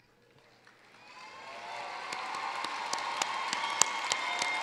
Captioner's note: cheering, applause